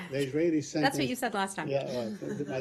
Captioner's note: laughter